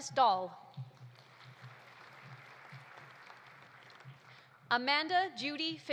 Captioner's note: audience applauding